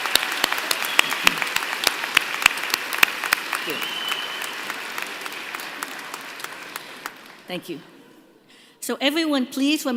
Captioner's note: applause